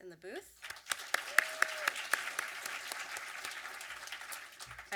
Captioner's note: audience applause